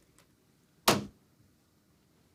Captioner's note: dan slams phone down